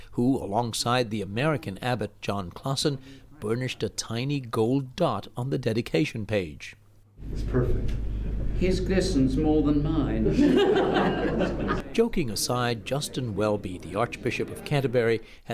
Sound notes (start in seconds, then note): 11.8 laughter